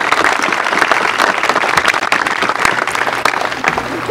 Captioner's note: applause